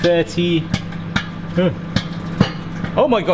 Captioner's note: melted butter spits